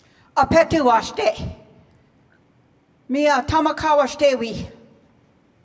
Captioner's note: speaking in foreign language